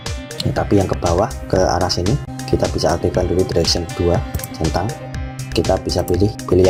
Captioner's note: click